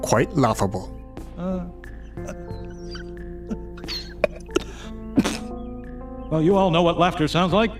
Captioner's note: laughter